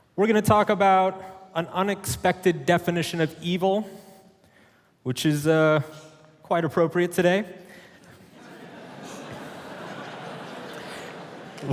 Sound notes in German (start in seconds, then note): 8.1 Publikum lacht